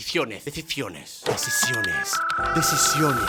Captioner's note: computer sound